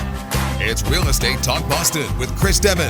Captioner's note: voiceover